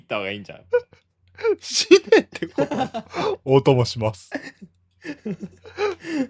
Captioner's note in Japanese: 笑い